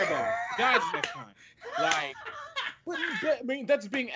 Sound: laughs

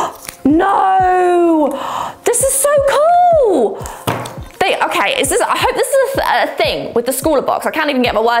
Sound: gasp

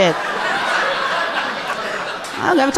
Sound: audience laughing amusingly

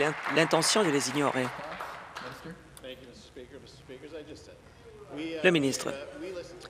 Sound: applause

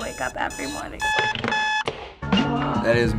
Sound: alarm clock stops

